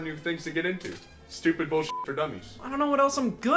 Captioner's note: beep